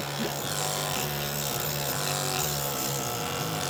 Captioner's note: tool whirs